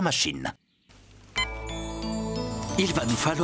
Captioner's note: beep!